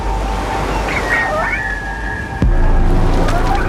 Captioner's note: strange birdcalls